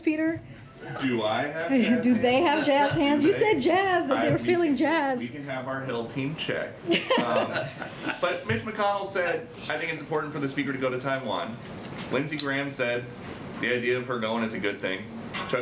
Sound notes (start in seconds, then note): 1.9 laughs; 6.8 laughter